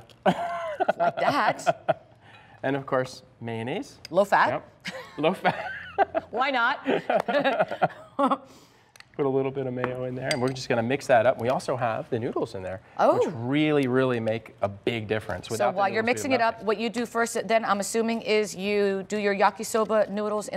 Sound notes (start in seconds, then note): 6.8 laughter